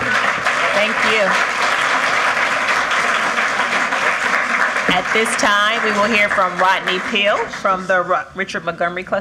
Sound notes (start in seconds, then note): 4.0 applause